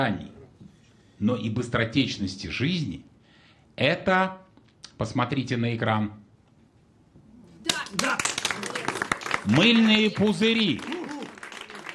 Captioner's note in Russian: аплодисменты